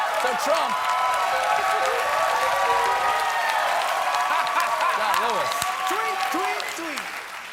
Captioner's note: applause